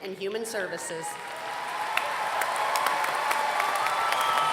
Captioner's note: applause